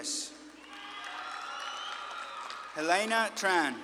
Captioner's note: audience claps and cheers